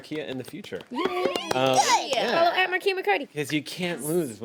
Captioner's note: women cheer